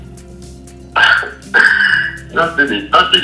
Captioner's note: laughs